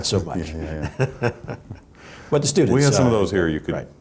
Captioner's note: laughs